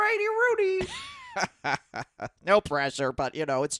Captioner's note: cackles